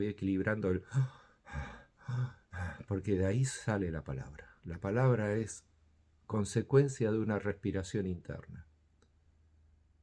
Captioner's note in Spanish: respira profundamente